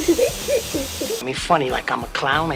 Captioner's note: laughter